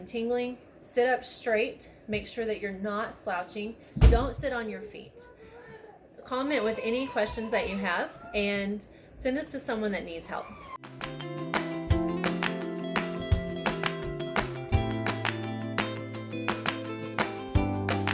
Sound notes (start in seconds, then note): 6.3 child yelling in background; 10.4 loud clapping; 10.8 uplifting instrumental music